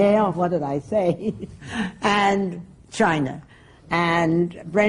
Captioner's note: laughs